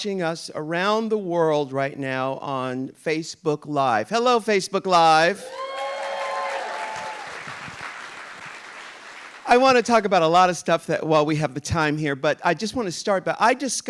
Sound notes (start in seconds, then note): 5.5 audience applauding